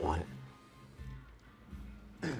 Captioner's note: clears throat